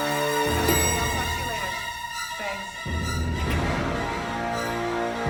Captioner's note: elevator bell rings